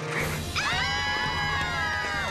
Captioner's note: screaming